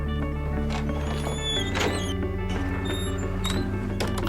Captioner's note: door squeaks